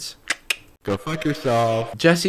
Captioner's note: clicking